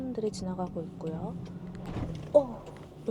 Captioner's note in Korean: 덜컹